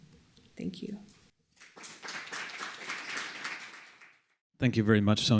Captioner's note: applause